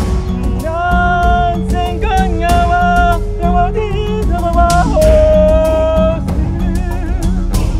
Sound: chanting

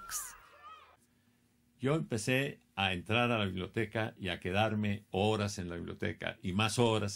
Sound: speaking in foreign language

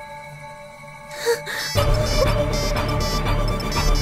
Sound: mobile Ringing

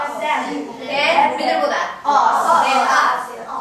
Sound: speaking foreign language

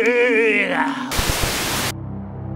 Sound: static crackles loudly; suspenseful synth music

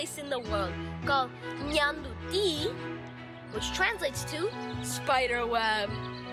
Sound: foreign language

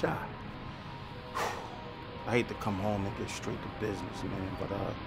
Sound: sighs

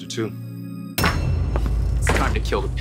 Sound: door kicks open

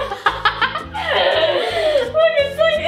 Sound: laughs

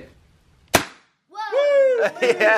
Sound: nail gun fires

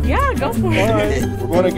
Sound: laughter

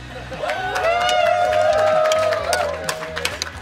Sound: cheering & Clapping

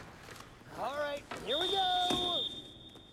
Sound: whistling

